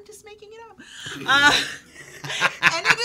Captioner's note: laughing